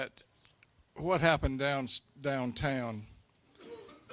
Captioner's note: laughter